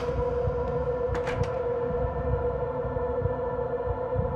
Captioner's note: door opens; door closes